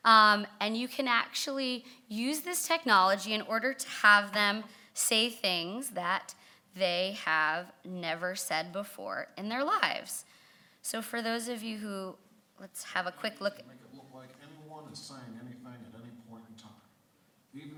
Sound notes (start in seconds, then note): 13.7 voiceover